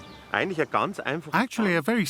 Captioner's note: speaking in foreign language